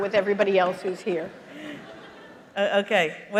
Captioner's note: laughter